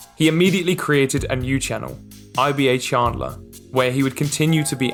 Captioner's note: none